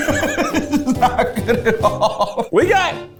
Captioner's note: laughs